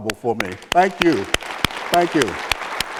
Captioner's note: applause